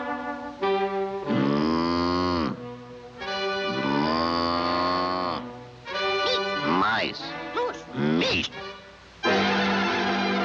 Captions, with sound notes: (moose bellowing) - Meese! - Mice! - Moose! - Meese!